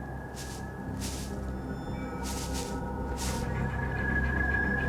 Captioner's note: creatures foraging in leaves